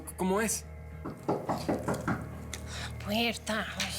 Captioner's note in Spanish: toques en la puerta